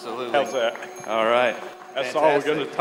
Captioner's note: crowd laughs and applauds